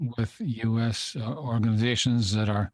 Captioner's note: speaking in French